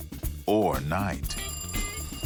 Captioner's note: phone ringing